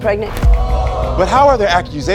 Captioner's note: audience groans